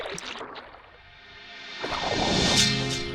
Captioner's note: water splashing